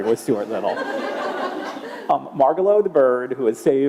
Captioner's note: laughter